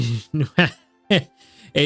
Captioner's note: laughs